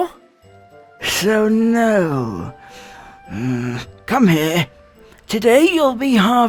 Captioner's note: grumble